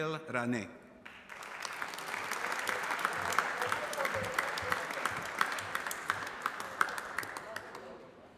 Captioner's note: applause